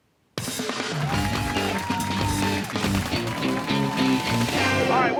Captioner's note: cheers and applause